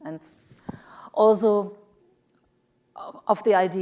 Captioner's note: none